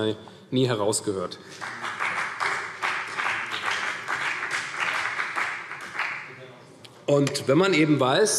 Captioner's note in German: Beifall CDU und vereinzelt BÜNDNIS 90/DIE GRÜNEN